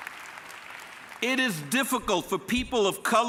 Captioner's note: applause